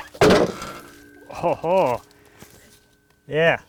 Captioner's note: log clattering